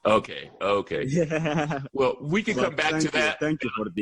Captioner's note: laughter